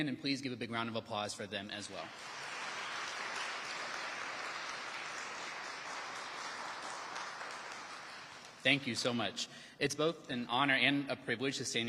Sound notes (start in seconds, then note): 1.9 audience applauding